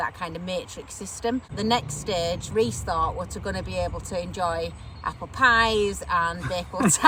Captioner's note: laughing